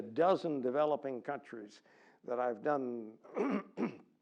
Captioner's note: cough